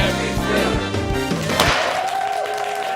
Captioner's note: audience cheering; hammer smashing